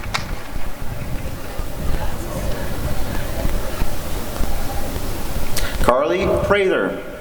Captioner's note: applause and cheering